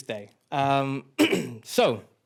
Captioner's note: clears throat